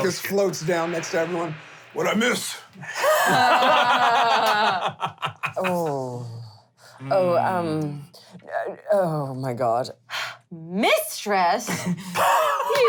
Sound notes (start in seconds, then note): 2.9 laughter